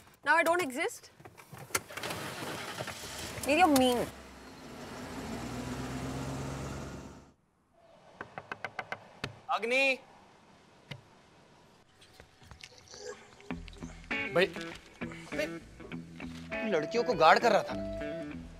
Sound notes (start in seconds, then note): 1.7 engine starts; 8.2 knocks